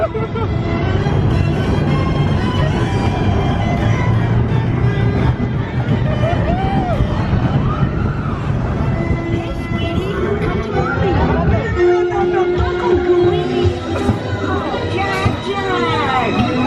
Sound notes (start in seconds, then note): 0.0 laughing; 0.0 speaker chattering; 1.8 coaster rumbling; 1.8 energetic music; 10.4 speaker chattering; 11.0 energetic music